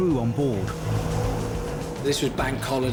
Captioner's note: boat engine revving